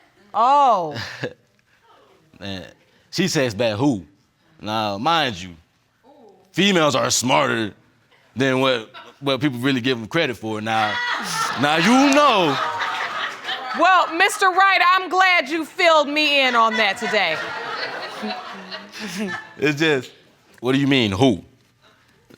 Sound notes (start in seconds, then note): 1.0 chuckles; 10.9 audience laughs; 16.7 laughter continues